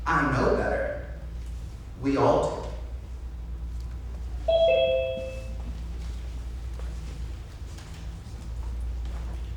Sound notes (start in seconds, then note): 4.5 alarm beeps